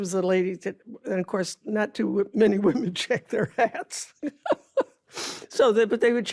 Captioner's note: laughs